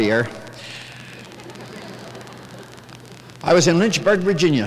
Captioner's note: light laughter